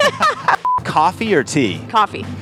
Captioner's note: beep